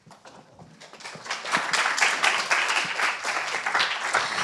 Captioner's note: applause